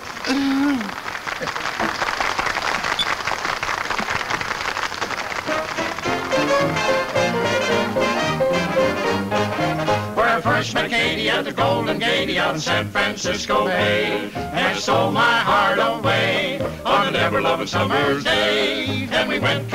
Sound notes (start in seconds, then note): 1.6 patrons clap; 7.3 lively music